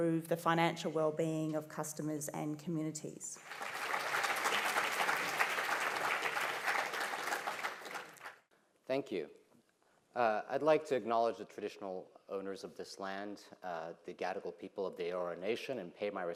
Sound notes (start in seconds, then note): 3.3 applause